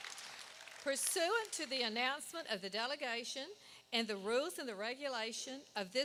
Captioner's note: applause